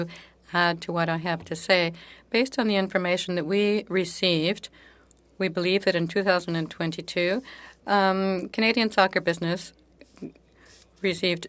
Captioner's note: speaking French